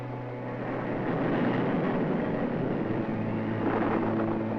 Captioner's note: thunder rumbling